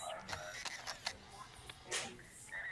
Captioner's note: camera shutter clicking